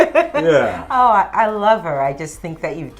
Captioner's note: laughs